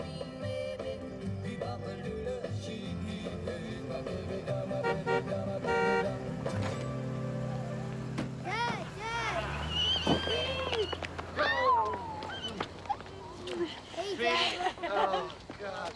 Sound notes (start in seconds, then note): 4.6 honking